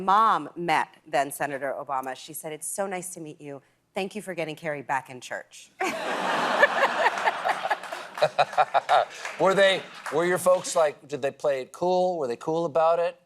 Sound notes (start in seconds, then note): 5.8 laughter